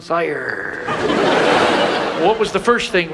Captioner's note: audience laughs